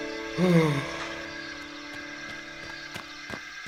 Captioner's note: Gordon yawns